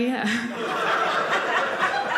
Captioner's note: audience laughing